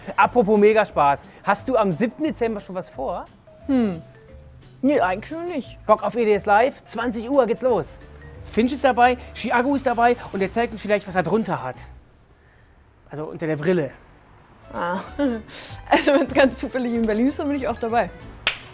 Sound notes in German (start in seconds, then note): 15.1 Dünnes Lachen